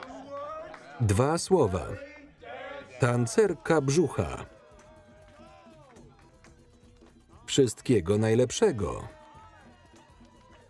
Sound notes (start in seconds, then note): 2.3 men cheering; 5.7 exotic beat music